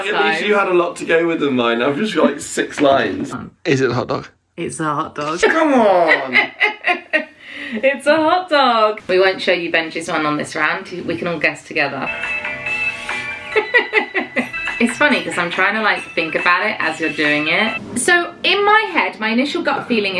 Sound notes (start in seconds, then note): 5.3 laughing; 12.1 upbeat spooky music; 13.5 laughing